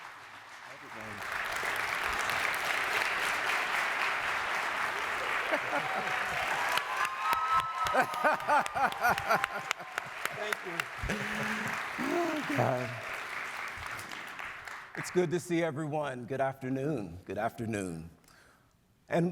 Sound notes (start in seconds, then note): 6.0 audience cheers and applauds